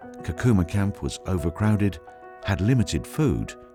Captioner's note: voiceover